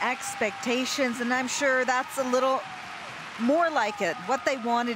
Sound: cheers and applause

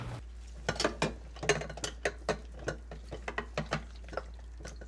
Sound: clinking dishes

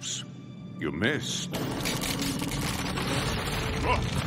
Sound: ground rumbling

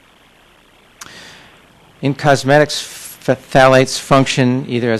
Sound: none

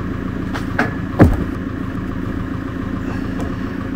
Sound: wood thumping

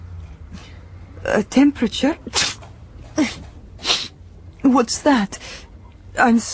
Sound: she sneezes

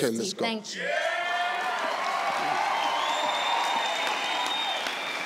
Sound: crowd cheering

